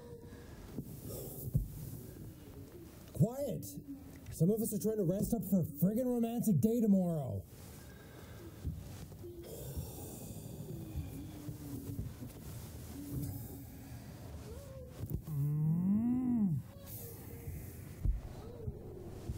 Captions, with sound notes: Quiet, some of us are trying to rest up for a friggin' romantic day tomorrow. (groans) (muffled screaming)